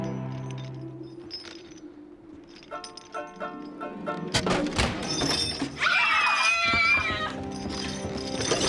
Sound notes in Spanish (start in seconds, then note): 3.1 música de ukelele; 4.4 Trampilla cerrada de golpe; 5.3 gritando